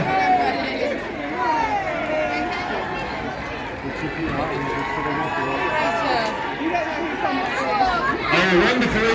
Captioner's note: cheers still ensue from the crowd